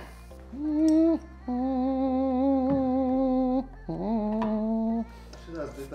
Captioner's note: humming a song